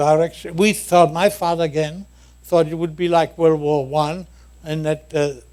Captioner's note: none